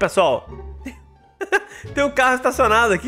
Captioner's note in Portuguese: risos